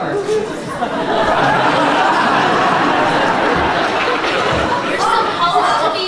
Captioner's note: laughter